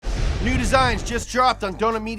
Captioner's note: loud swoosh